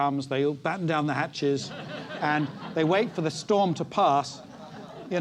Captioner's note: laugh